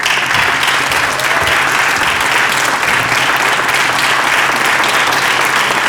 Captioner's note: applause